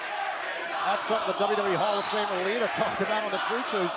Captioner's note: crowd cheering